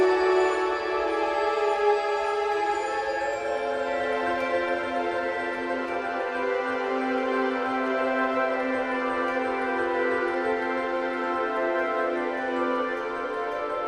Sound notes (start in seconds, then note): 1.9 dogs howling in the distance; 1.9 mysterious music continues; 10.0 mysterious music continues